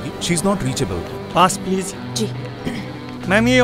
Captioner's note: Clear throat